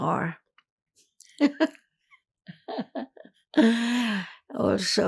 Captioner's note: laughing